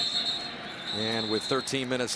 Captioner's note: whistles